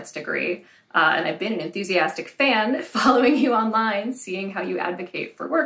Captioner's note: laugh